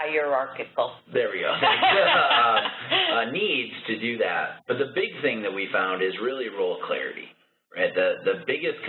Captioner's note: laughter